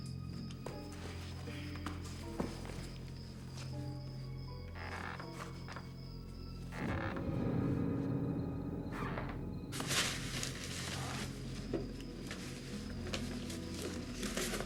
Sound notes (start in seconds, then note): 5.2 floorboards squeaking; 8.4 soft suspenseful music